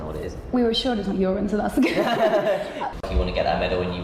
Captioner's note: laughter